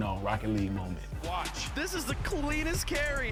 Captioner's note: announcer In The Background